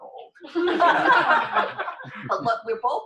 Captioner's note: laughter